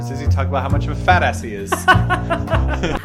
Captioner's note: laughs